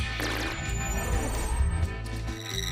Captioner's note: laser sfx